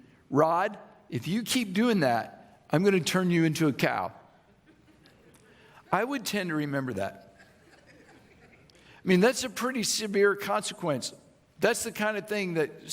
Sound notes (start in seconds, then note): 7.4 audience laughing